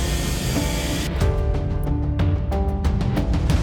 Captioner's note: pensive music continues; saw buzzing; pensive music continues